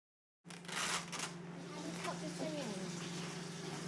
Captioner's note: velcro rips